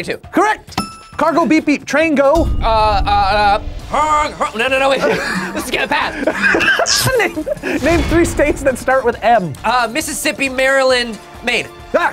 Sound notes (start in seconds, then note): 4.9 laughs